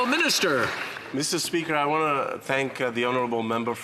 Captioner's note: some Applause